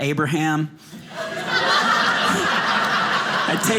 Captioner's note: audience laughing